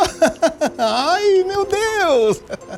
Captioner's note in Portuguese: Homem ri